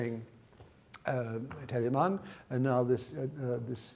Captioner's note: speaks in foreign language